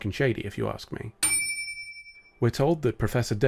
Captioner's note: ding